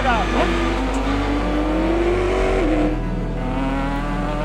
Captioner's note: engine roaring